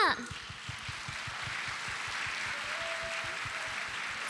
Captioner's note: applause